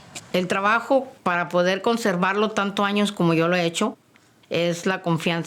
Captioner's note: speaking Spanish